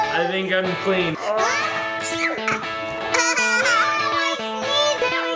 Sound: child sneezing

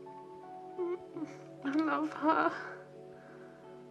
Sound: whimpers

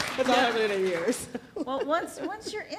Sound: laughs

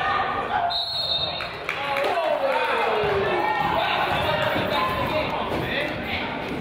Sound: whistle blows; crowd applauds and groans

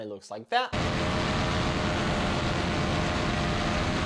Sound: engine revving

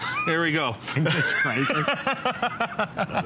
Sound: laughter

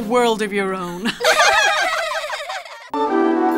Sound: laughter; upbeat music

